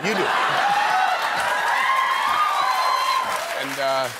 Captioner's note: applause